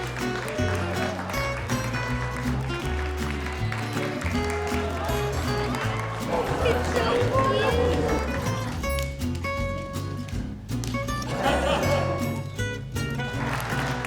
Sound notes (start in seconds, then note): 2.9 cheers and applause; 11.1 laughter; 13.0 applause